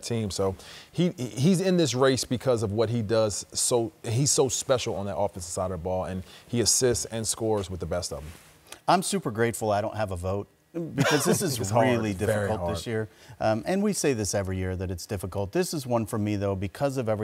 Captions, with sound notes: So he-- he's in this race because of what he does. So-- he's so special on that offensive side of the ball. And he assists and scores with the best of them. - I'm super grateful I don't have a vote. [chuckling] - It's hard. It's very hard. - Because this is really difficult this year. And we say this every year, that it's difficult. This is one for me though, because of everything